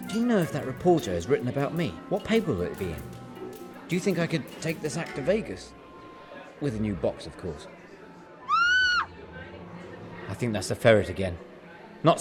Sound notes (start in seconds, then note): 8.4 woman screams